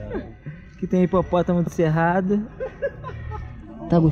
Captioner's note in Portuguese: risos